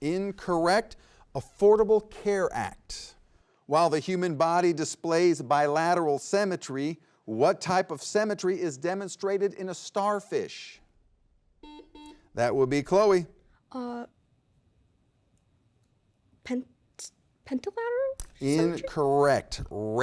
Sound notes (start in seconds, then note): 11.6 buzzer beeps